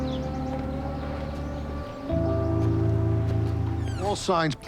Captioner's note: dramatic music; door squeaking